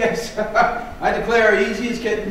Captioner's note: laughs